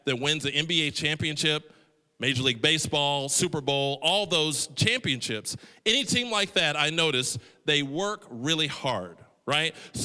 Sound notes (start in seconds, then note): none